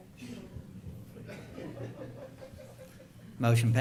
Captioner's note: laughter